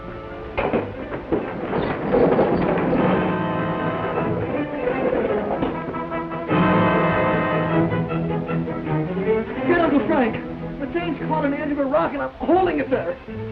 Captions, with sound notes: (wheel clacks) - Get Uncle Frank. The chain's caught on the end of a rock, and I'm holding it there.